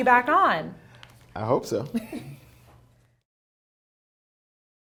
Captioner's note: laughs